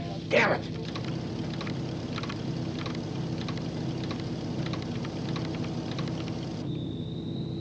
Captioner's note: clicking, whirring